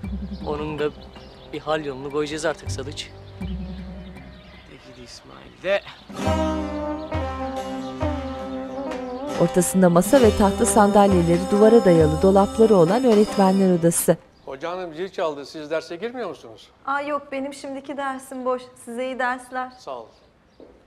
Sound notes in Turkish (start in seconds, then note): 10.0 Ders zili sesi